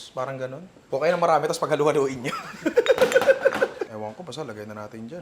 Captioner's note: laughs